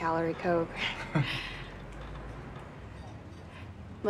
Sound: chuckles

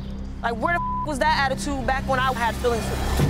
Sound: beep

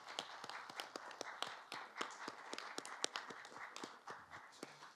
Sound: applause

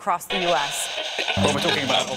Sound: radio tuning

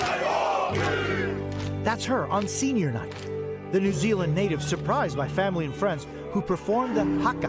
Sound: cheers and applause

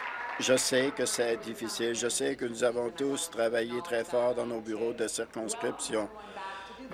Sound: applause

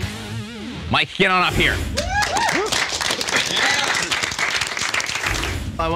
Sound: audience cheering

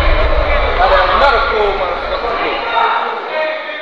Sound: chatter

